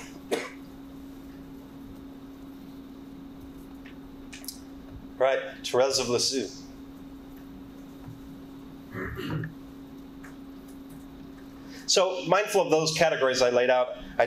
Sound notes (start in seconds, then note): 0.0 man coughs; 8.9 clears throat